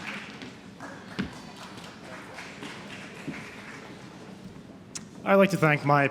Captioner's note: applause